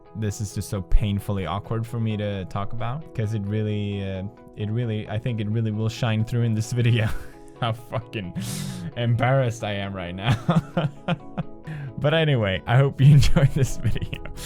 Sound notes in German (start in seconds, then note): 7.0 kichert; 10.3 kichert